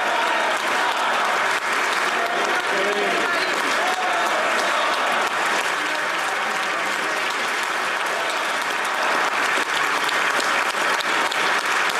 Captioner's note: applause